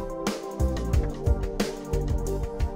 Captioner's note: none